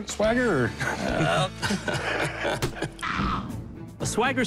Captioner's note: chuckles